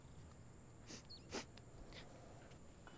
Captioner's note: Sniffs